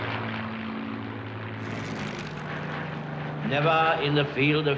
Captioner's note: plane engines roaring